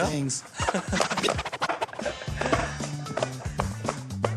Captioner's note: chuckles